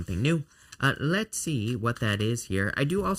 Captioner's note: cards shuffling